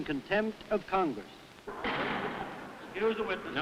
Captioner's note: loud bang